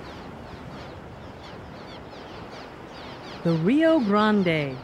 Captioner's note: birds squawking